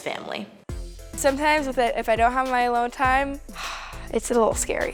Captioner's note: sighs